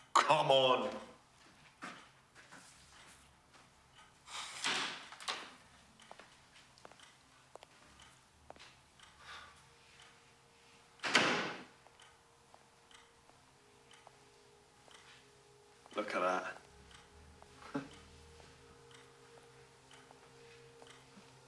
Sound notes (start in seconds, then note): 4.1 clock ticking; 9.3 ominous music